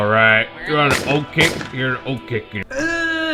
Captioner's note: gunshot noises; grunting